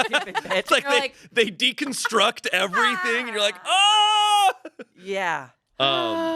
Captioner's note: yells